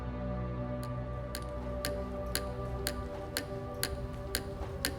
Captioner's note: quill tapping